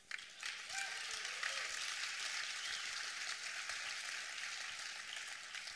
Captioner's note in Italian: applausi